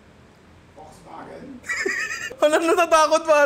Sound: laughs

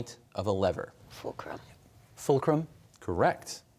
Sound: quietly

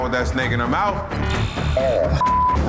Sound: digital beeping

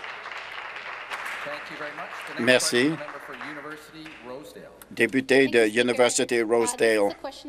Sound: applause

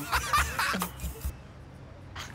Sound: laughter

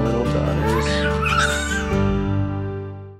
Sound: baby squeals

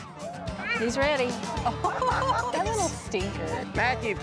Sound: laughter

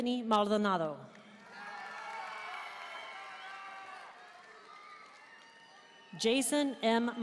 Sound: audience cheering and applauding

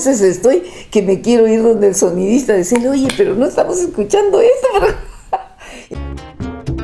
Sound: laughs

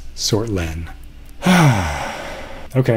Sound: sigh

